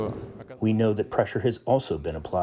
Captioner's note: through translator